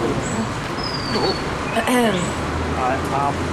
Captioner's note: cough cough